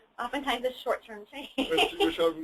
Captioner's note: laughs